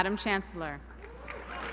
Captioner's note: applause